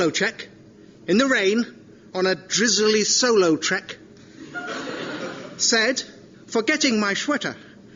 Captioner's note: attempting a Sean Connery impersonation